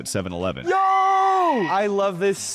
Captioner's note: person screaming